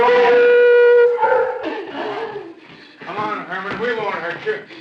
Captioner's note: dog barking